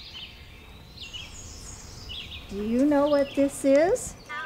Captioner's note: birds singing